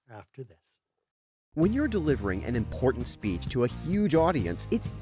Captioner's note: voiceover